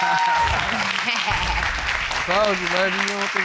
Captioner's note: audience cheering